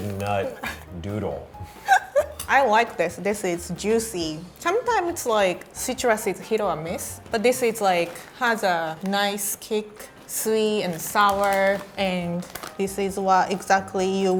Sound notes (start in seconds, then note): 1.7 laughing